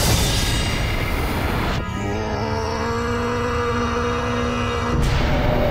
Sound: screaming in slow motion

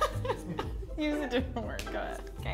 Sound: laughs

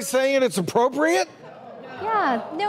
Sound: audience murmuring

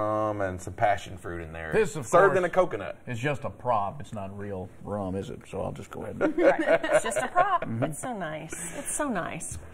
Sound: laughter

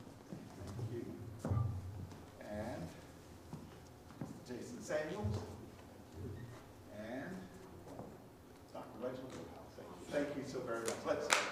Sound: applause

